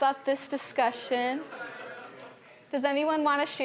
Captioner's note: general chatter